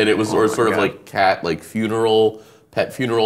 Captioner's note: laughing